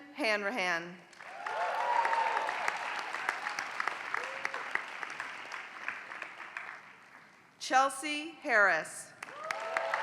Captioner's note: applause; applause